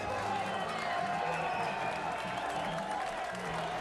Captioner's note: cheering